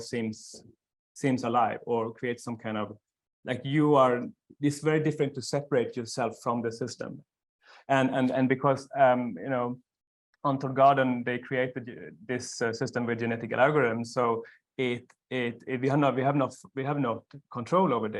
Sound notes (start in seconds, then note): none